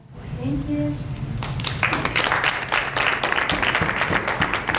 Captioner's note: applause